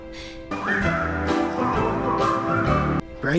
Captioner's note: whistles